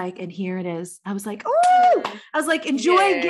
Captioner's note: clapping